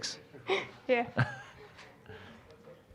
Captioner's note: giggling